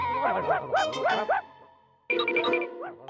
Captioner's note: barking